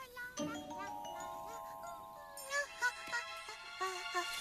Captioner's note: humming